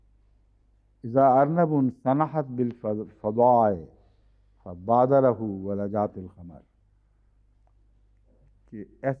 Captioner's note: Arabic